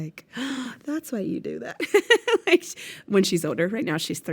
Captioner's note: laughs